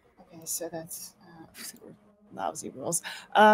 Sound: whispers

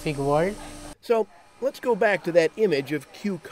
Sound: voiceover

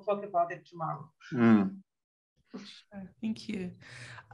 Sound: gruntles

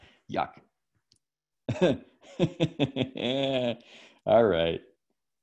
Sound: laughs

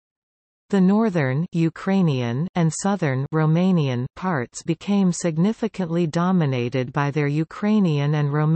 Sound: Ukrainian

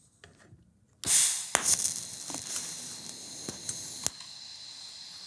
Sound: welding gas hisses and pops

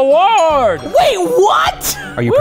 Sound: doorbell ringing

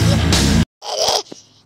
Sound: scream; screaming

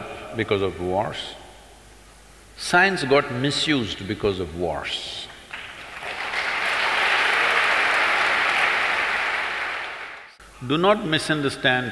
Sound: applause

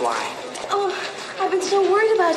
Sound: Lorraine moaning

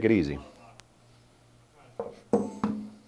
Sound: paintball gun thudding

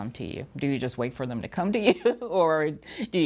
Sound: chuckles

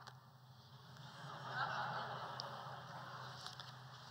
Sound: laughter

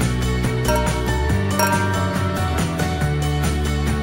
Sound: clink, clink

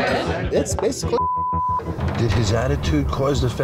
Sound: beep

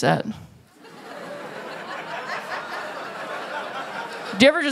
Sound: laughter

